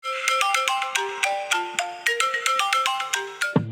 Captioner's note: alarm chimes